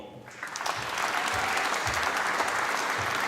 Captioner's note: applause